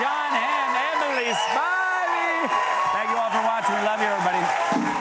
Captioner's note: cheers and applause